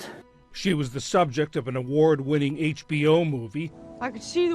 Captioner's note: voice-over